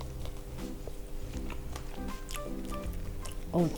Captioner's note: eating